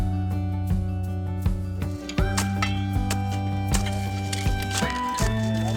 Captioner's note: shovels hitting dirt